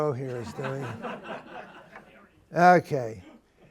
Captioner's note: laughter